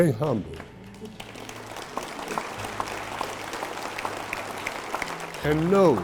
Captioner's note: audience applauding